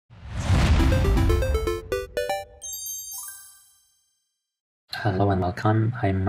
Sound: title page whooshing

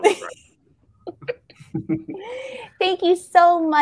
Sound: all laughing

